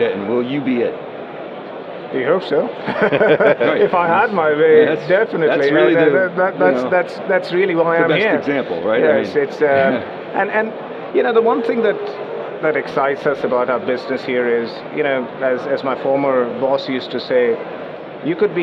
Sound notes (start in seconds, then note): 2.8 laughs